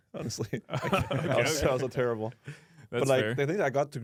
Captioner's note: laughs